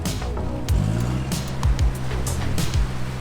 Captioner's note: engine revs